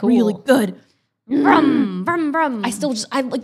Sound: growls

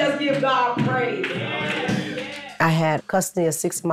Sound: congregants agreeing

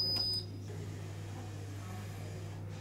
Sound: machine beeps; machine buzzing

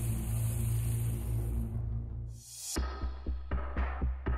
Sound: fire sizzling

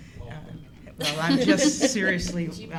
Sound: laughter

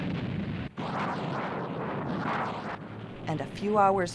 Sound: explosions

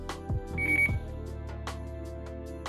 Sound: beep

